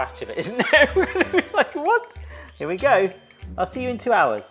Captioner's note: laughs